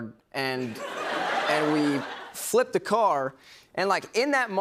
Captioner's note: laughter